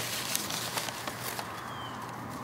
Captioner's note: ruffling papers